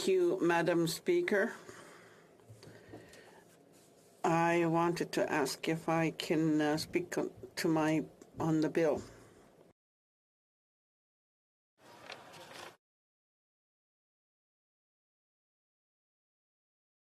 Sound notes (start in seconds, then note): 4.4 speaking alternate language